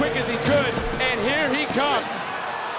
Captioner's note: gong rings